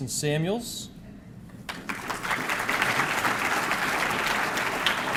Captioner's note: audience clapping